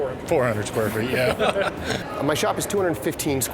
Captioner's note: laughter